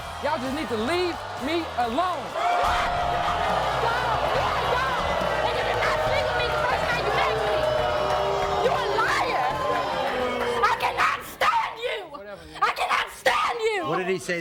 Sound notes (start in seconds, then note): 2.3 audience boos; 7.8 audience boos